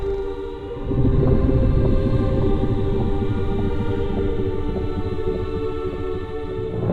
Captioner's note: soft boom; gentle mysterious music; rapid fluttering